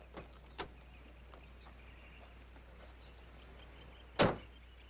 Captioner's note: birds chirping